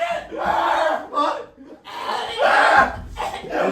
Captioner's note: screaming/cursing/dying sounds